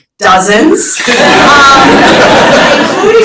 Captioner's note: laughter